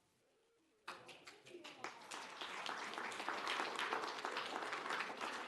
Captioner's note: applause